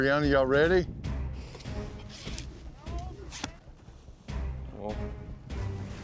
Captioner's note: air whooshing